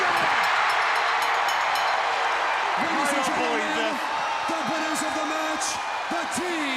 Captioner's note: crowd cheering; bell ringing